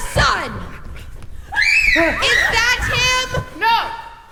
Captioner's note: scream